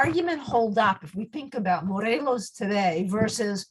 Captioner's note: speaks in foreign language